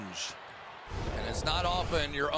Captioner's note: swoosh